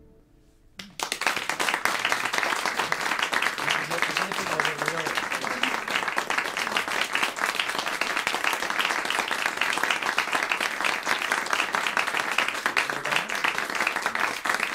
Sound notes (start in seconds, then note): 0.8 applause